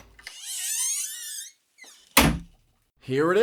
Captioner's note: door unlocks, opens